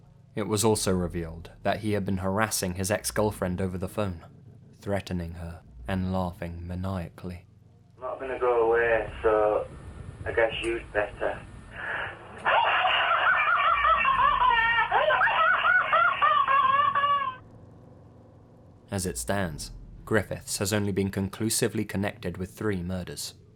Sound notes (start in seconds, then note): 7.9 muffled voice recording; 11.8 maniacal laughter